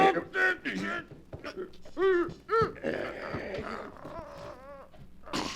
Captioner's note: grunting